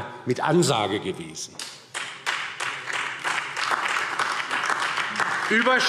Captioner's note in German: Beifall DIE LINKE und vereinzelt SPD